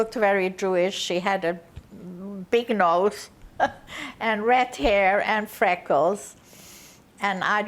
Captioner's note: laughing